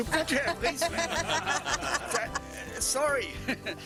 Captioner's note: laughter